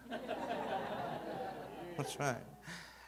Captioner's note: audience laughing